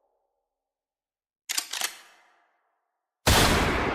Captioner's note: cocking; Emiya's gun firing